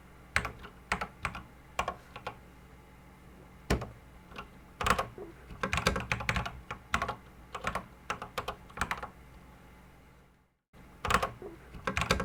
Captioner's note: typing on a Commodore 64 keyboard